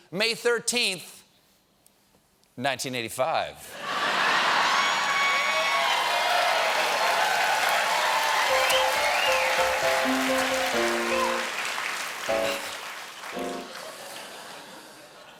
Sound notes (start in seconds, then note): 3.8 laughter; 3.9 cheers and applause; 10.5 laughter; 10.5 piano riff